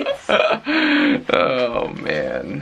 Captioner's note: laughter